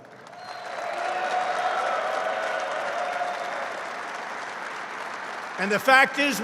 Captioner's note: applause